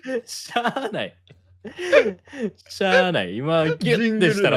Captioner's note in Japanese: 笑い